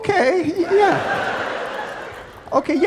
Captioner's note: people laughing